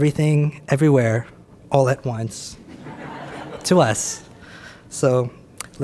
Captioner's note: audience laughs